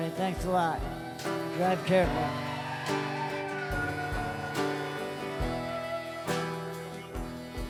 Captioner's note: crowd cheers